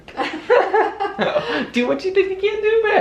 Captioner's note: chuckling